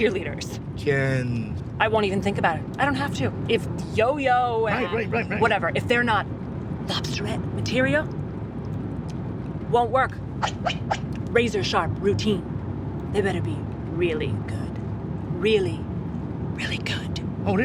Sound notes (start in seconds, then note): 10.4 sword slashing